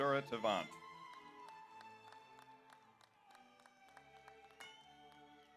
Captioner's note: audience applauds